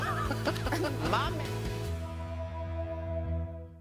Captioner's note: laughter